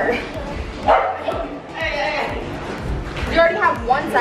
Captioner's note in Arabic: خلفية غير واضحة تتحدث